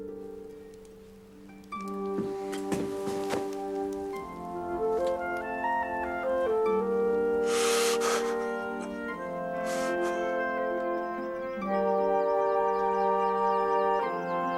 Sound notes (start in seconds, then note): 7.4 sobbing; 10.9 birds chirping